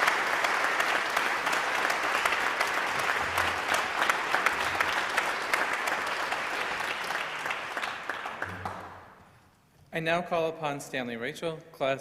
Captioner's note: applause